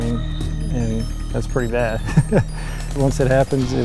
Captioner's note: chuckles